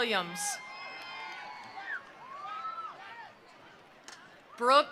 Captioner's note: attendees cheering; attendees applauding